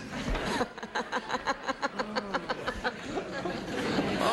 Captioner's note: laughing